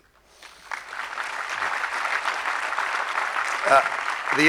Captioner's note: audience clapping